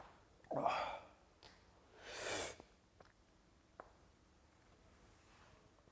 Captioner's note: sighs